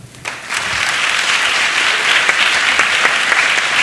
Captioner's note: applause